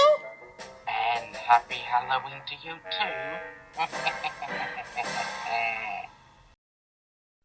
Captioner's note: laughs